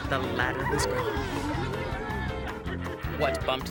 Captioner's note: monkeys jabbering